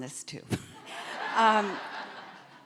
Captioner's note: audience laughing